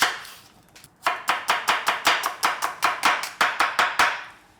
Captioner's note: knife chopping